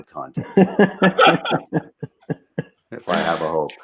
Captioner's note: laughing